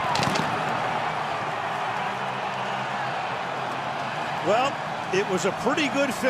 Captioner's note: fireworks explodes